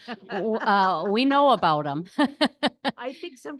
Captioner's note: laughs